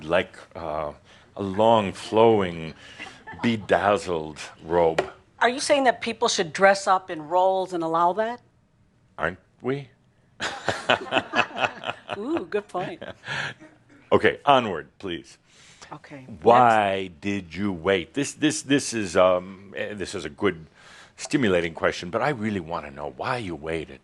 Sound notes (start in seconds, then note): 10.4 chuckles